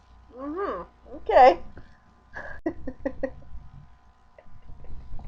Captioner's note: chuckling